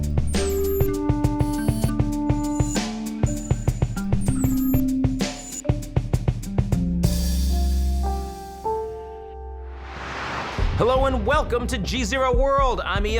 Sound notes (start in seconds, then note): 0.2 upbeat music; 9.6 air whooshing